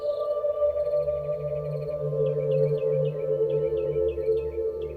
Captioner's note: birds chirping